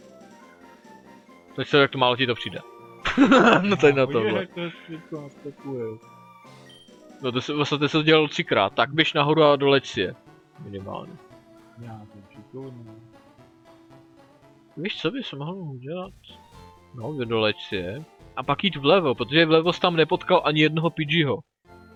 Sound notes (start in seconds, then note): 3.0 chuckles